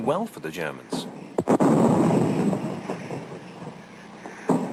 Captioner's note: bombs exploding